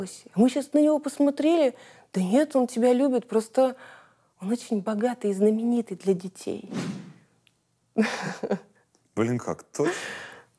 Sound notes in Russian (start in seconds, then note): 8.0 смеется